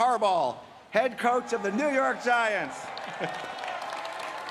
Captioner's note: applause